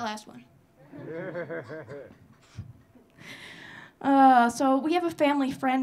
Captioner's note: audience laughing